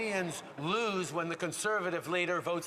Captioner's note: some Applause